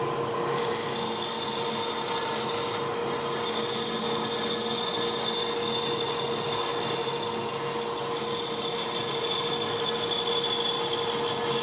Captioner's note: buzzing